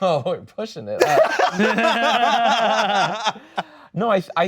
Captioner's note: laughing